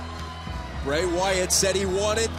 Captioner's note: crowd cheering